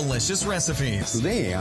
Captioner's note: voiceover